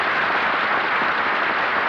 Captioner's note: applause